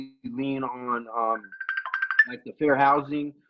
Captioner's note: phone rings